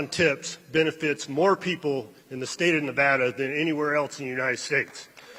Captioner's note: applause